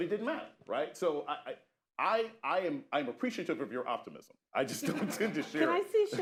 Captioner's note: laughter